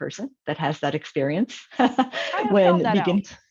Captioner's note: chuckles